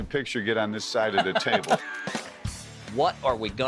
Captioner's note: laughing